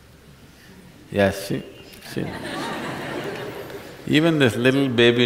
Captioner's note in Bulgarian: Смях